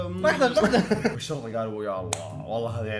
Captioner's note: both laugh